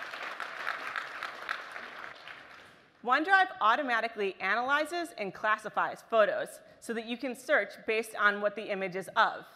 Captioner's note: applause